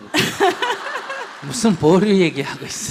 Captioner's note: questioner Laughter